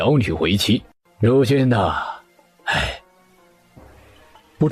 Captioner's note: sigh